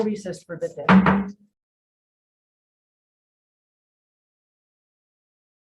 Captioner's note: hammers the table